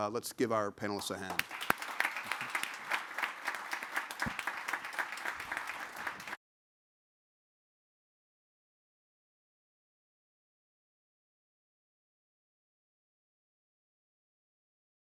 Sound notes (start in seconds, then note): 1.0 audience applauding